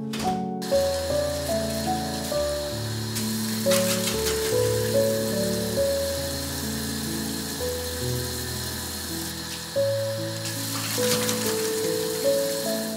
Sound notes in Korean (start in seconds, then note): 3.2 세수하는 소리